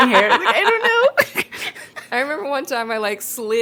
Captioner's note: both laugh